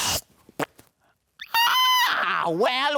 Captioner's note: aerosol hisses; drink squelches